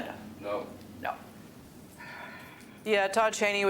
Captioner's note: sighs